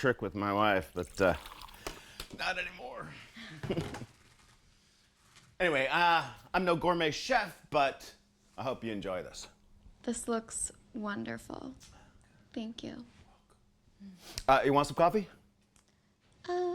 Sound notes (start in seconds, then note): 3.4 chuckles